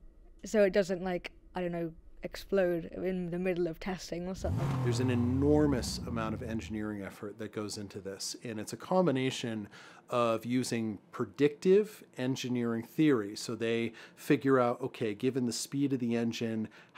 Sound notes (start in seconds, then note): 4.3 engine rev